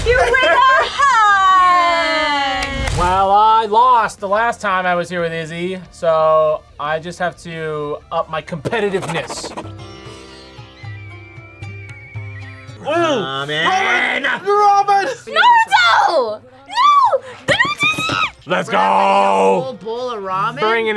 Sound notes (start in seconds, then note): 9.4 mysterious music; 16.7 screams